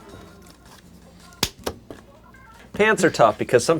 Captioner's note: hands clapping